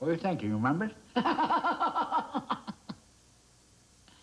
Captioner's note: laughs